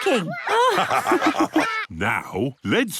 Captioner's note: all laugh